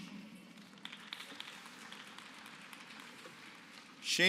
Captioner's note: applause